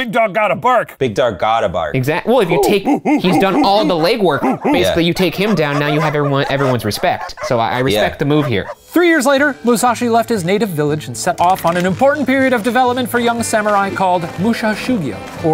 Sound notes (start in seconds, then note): 2.2 professor barking